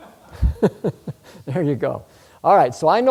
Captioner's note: laughs